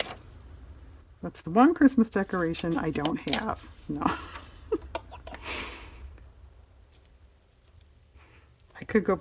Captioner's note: laughs